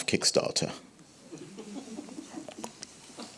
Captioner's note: audience laughing